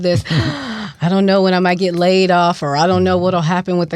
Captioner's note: gasps